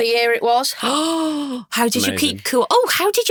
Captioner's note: gasps